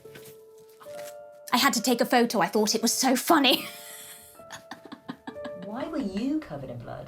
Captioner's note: laughs